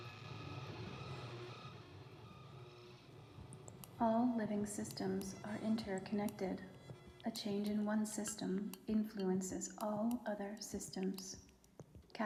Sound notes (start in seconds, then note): 4.2 voiceover